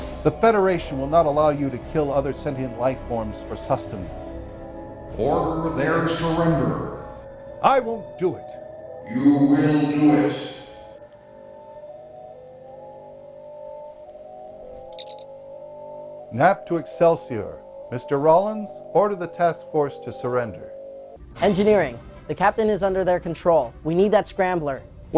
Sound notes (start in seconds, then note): 3.9 deep, booming voice; 11.2 deep, booming voice